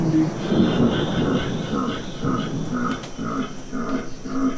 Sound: demonic laughing

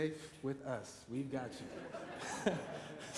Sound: laughter

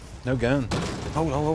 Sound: metal rattling

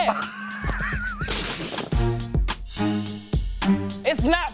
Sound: laughter

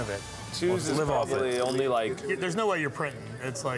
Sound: table chatter

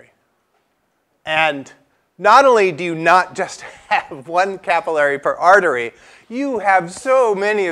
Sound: laugh

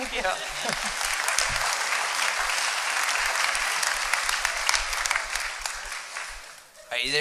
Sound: applause

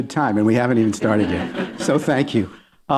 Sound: laughter

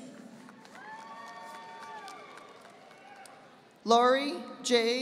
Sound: audience applauding

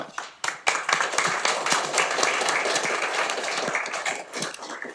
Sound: audience clapping

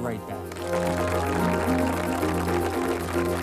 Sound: audience applauds; soft electronic music

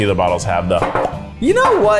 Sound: lips pops

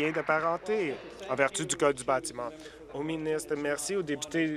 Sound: applause

